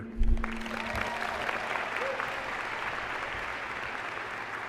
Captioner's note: applause